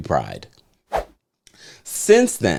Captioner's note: whoosh